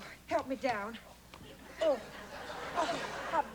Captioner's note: laughter